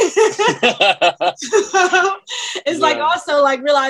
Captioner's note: all laugh